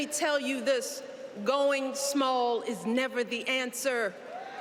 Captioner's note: cheers and applause